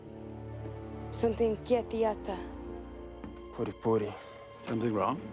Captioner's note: speaking foreign language